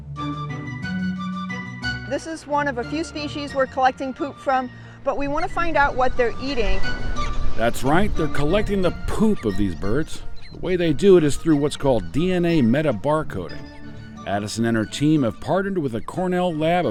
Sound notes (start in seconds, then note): 0.1 lively music; 7.3 bird chirping